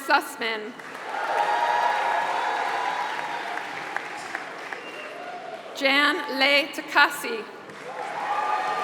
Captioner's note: applause; applause